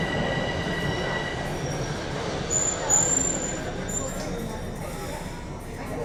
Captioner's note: people chattering